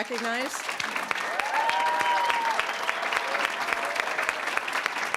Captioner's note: applause, cheering; applause